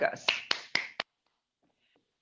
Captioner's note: clapping